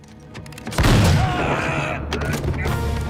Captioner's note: suspenseful music; gun fires; groans; dramatic music